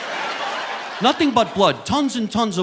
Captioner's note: audience laughing